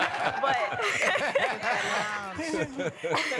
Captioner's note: laughter